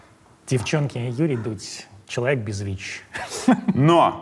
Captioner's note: chuckles